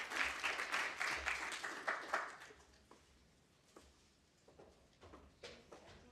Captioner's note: applause